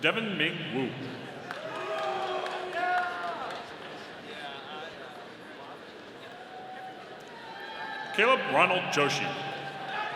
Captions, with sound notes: Devin Ming Wu. (audience cheering) - Yeah! - Kaleb Ronald Joshi.